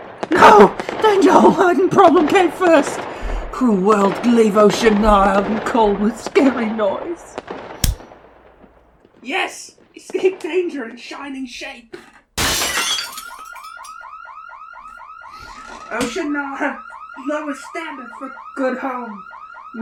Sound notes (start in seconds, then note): 12.4 glass smashing; 13.0 car alarm